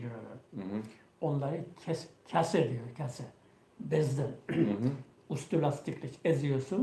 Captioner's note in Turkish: boğazını temizler